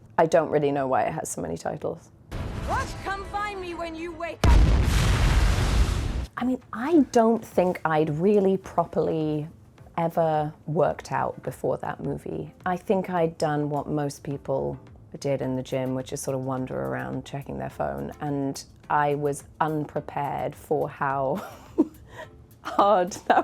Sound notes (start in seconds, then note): 4.4 bomb exploding